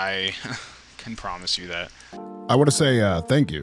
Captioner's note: laughs disheartenedly